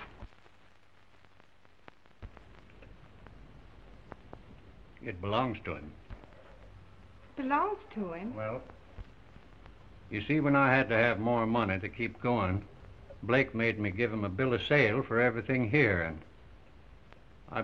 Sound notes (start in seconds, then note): none